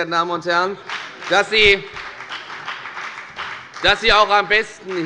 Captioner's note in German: Beifall bei der FDP